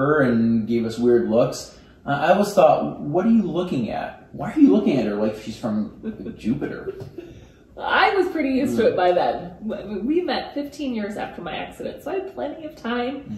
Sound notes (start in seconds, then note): 6.8 laughs